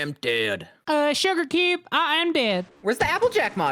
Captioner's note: Applejack voice